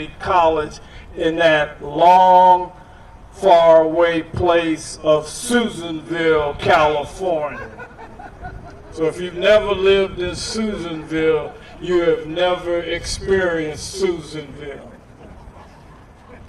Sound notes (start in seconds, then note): 7.4 laughter